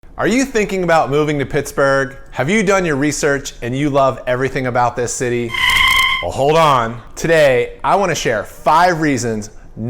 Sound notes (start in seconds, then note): 5.4 screeching